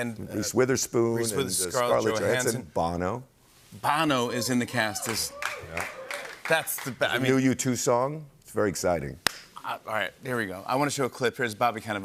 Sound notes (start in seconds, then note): 4.9 light applause